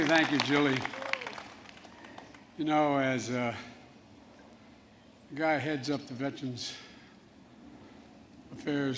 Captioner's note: cheers and applause; applause